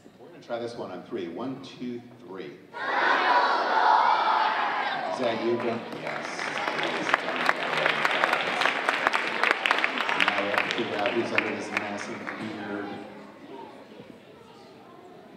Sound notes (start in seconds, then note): 8.1 audience applauding